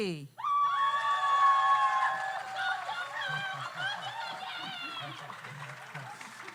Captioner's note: audience cheers; audience applauds